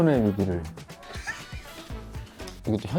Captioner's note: laughter